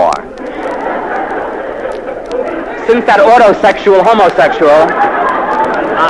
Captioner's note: laugh